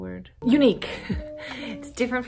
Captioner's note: bright piano music continues; laughs; music stops abruptly